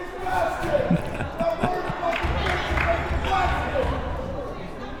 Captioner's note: both laughs